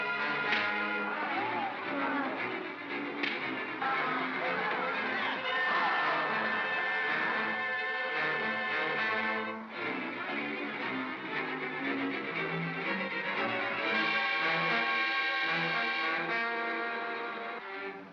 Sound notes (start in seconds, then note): 0.5 crack; 3.2 crack; 5.1 Bogeyman cries out; 7.6 suspenseful music